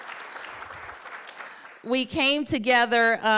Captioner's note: applause